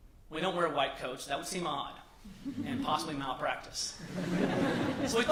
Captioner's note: laughter